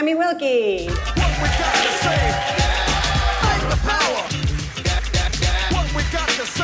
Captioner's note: audience applauding and cheering